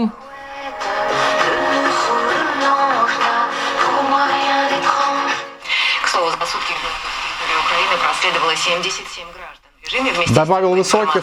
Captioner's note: music radio station sounds